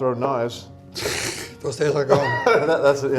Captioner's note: laughs